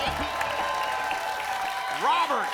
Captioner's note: applause and cheering